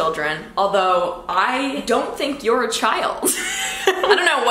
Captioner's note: laughs